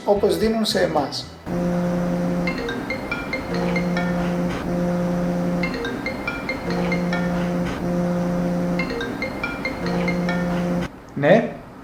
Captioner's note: mobile phone ringtone